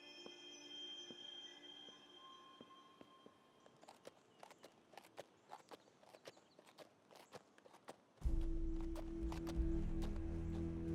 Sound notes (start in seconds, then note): 3.5 horse hooves clomping